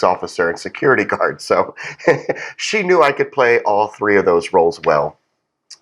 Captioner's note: laugh